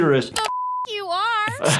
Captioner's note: beep